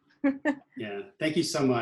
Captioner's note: laughs